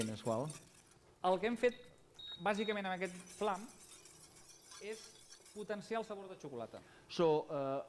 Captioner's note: non-english speech